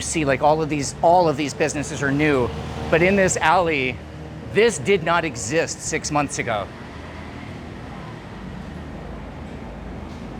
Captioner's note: exhaling